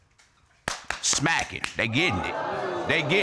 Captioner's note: audience exclaims